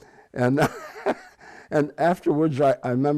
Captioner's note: laughs